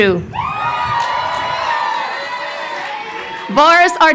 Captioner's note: crowd cheering